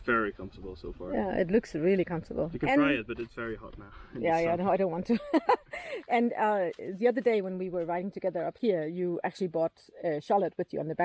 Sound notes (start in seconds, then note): 5.1 laughing